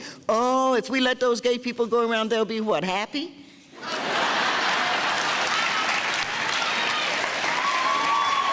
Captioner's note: laughing and cheering